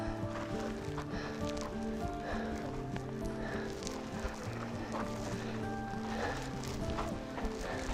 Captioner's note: heavy breathing